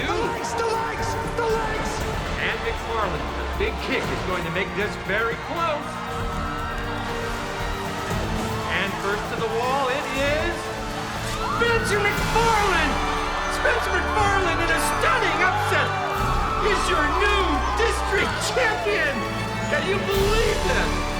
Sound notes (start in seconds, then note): 6.6 adventurous music; 12.8 crowd cheers